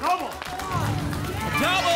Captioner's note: booms